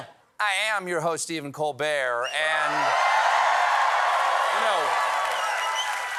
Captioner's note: cheers and applause